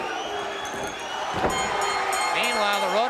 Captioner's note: bell ringing